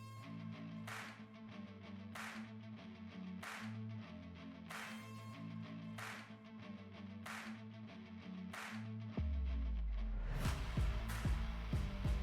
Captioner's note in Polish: Aplauz